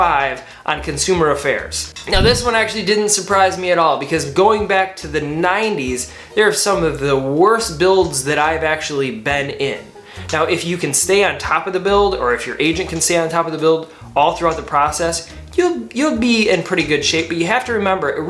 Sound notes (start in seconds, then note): 2.1 swoosh